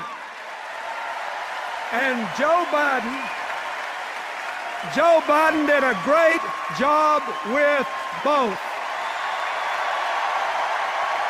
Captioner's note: applause and cheers